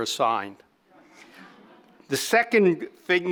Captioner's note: audience laughing